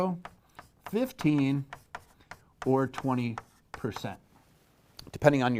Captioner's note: pen knocking